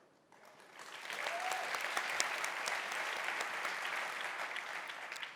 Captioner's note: audience applauding